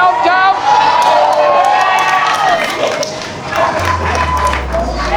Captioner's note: spectators applauding